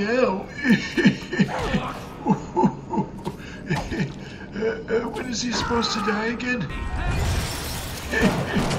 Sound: cocky old man laughter

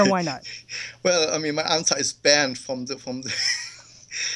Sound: chuckles

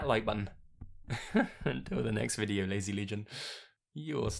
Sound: chuckles

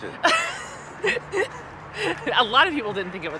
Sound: laughing

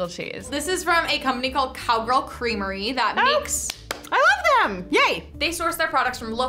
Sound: claps

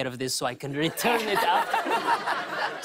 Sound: laughter; normal voice

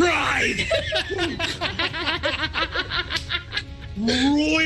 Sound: group laughs

